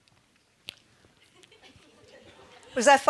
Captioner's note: audience laughing